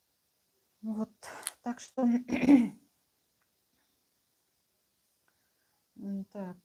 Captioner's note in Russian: откашливается